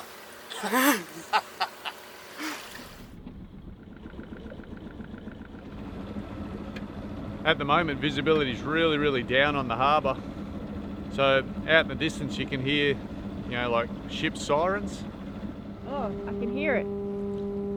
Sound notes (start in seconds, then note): 0.5 chuckles; 4.4 boat engine roaring